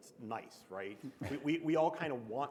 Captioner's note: chuckle